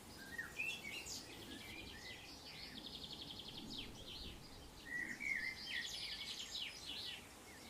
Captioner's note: sounds of birds fade out